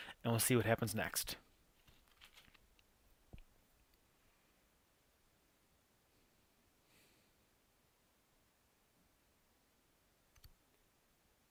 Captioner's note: silence